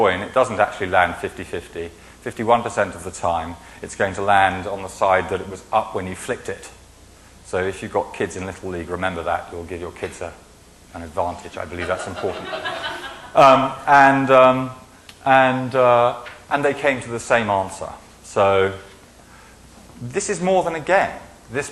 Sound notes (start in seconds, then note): 13.6 laughing